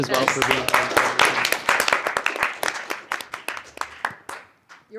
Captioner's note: applause